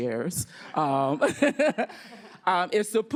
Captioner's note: laughter